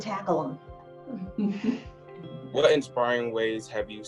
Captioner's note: laughs